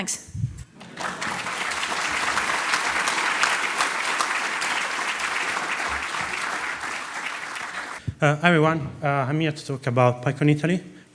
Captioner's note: applause